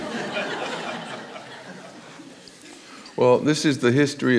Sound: audience laughs

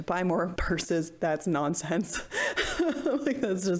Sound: laughs

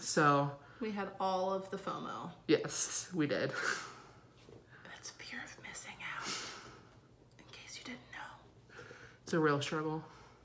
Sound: whispering

